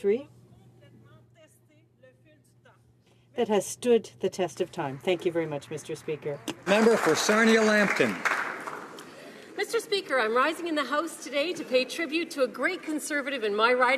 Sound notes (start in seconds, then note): 10.3 some Applause